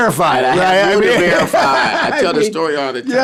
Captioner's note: laughs